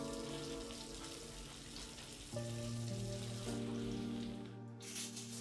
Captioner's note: water running